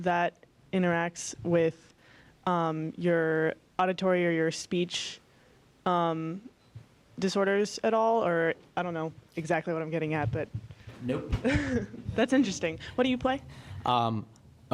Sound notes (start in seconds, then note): 11.2 laugh